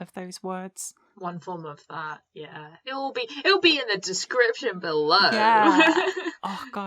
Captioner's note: pained laughter